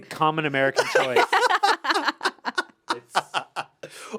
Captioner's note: laugh